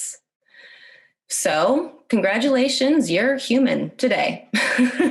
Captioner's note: laughs